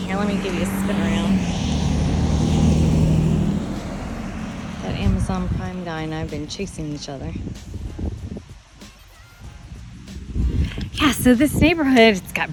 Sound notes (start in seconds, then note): 1.9 engine revving; 8.5 air whooshing